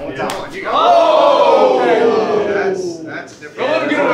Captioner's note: audience cheering